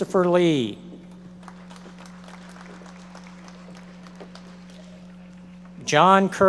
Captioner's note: audience members applauding